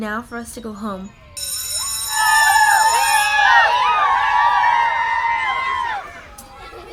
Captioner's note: school bell rings and class is cheering